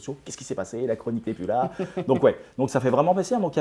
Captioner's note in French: Rires